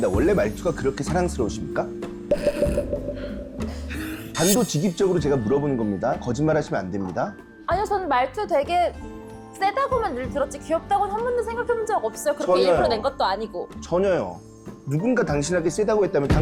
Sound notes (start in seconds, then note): 4.3 forceful sound effect